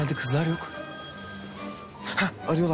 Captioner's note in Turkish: Telefon zili